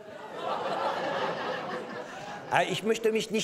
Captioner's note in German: Gelächter